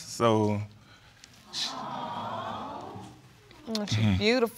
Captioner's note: audience cooing